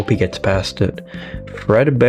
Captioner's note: inhales Oxygen